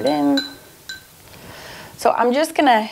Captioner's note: clattering gently